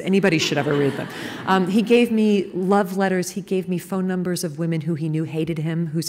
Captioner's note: laughter